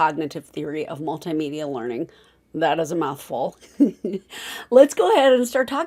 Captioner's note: giggle